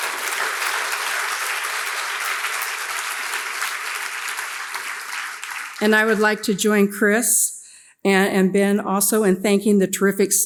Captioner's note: audience applauds